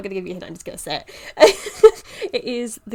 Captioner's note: laughs